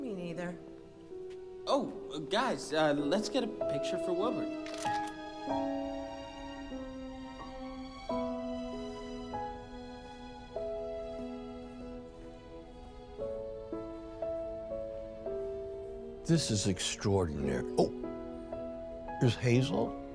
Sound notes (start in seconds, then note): 4.6 shutter clicking; 4.9 reflective music